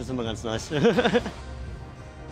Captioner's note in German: lacht